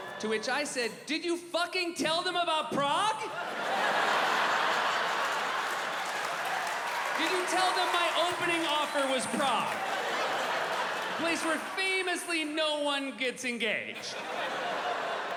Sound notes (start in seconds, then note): 3.2 laughter